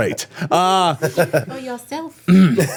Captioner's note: laughing